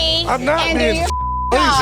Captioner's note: beep